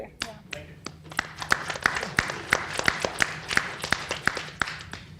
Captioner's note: people clapping